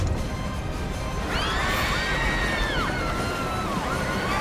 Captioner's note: screaming